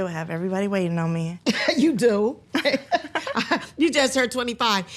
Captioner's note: both laughing